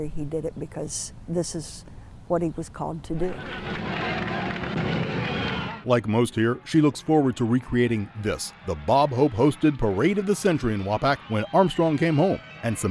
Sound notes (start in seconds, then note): 3.4 crowd cheering and applauding